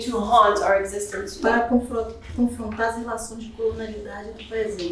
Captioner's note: speaking portuguese